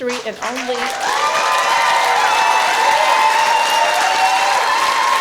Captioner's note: cheering